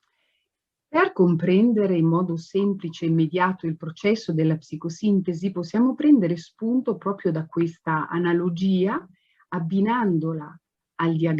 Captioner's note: speaks Italian